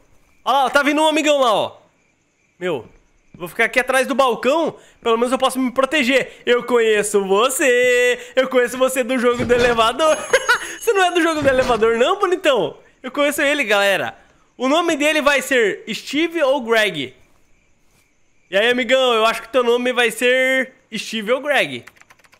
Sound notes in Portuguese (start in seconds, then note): 10.1 risos